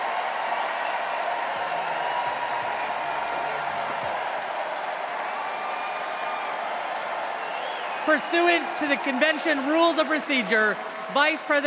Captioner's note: cheers and applause